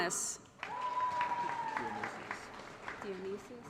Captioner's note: applause & Cheering